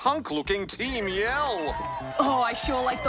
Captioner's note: audience murmur